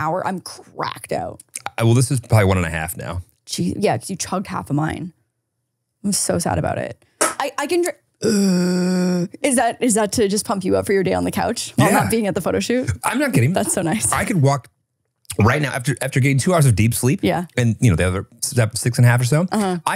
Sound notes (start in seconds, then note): 7.9 can clinks; 8.2 groans